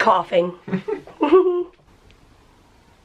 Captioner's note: giggling